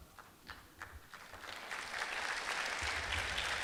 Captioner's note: clapping